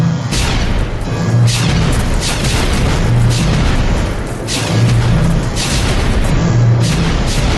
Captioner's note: explosions